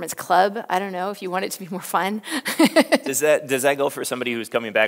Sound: laughs

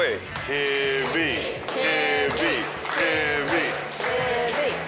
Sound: everyone chanting Hibby

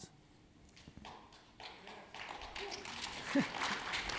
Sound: audience clapping

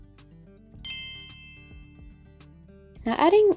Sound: bell chiming

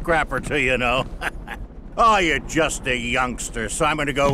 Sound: chuckles

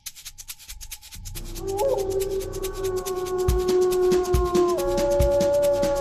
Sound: upbeat music; a howl

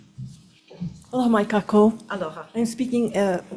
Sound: speaking Hawaiian

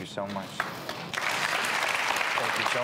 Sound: applause

